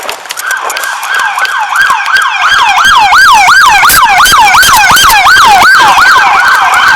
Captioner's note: sirens